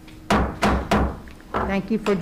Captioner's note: gavel bangs